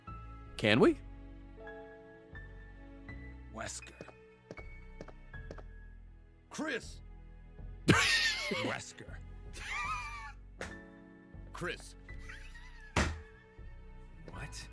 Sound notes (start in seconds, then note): 3.5 laughs; 3.5 slams desk